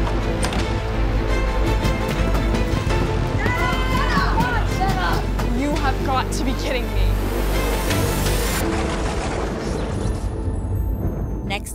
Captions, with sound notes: (door opening) (banging on force field) - Senna! - You have got to be kidding me! (thunder booming)